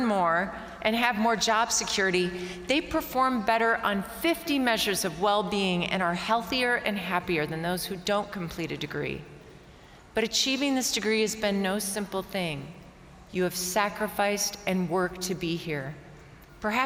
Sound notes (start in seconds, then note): none